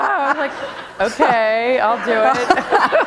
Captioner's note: laughter